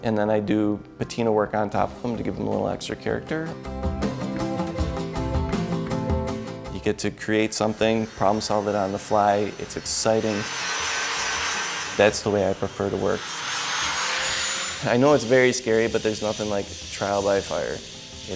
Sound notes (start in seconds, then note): 11.0 grinding; 13.3 grinding